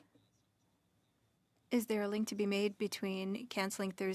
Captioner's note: speaking French